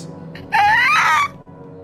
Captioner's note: high pitched yell